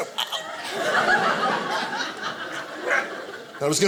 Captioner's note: audience laughing